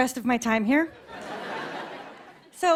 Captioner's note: light laughter